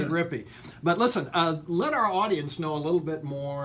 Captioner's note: laughs